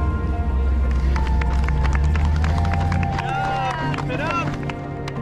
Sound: crowd applauding

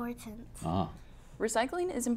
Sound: boink

